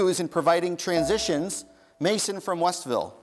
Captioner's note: dinging